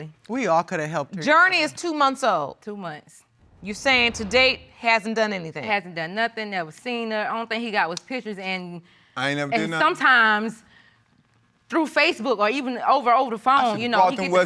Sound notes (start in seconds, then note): none